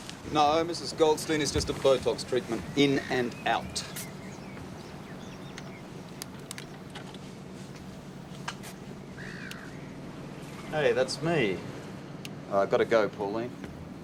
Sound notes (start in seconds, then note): 11.5 click